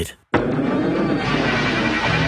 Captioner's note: electro-static explosion